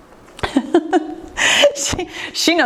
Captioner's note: laughs